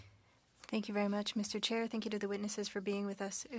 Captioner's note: speaking French